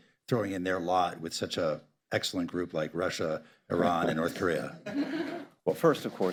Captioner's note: laughter